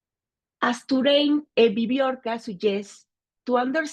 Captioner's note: speaking Spanish